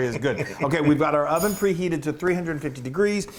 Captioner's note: laugh